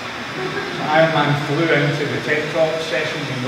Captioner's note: laughter